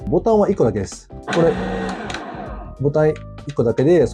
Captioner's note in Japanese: グラインダー駆動音